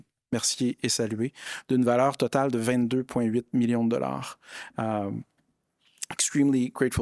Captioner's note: speaking in French